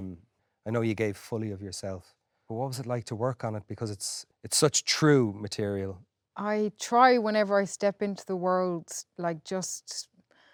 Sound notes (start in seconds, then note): none